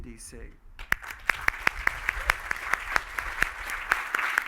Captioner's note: applause